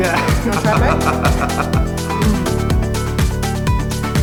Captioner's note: laughs